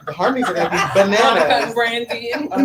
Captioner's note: laughs